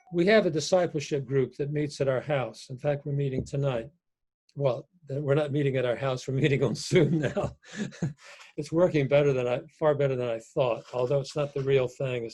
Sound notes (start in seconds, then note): 6.8 chuckles